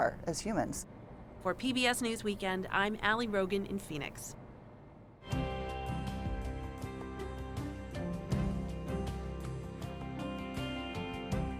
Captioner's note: voice-over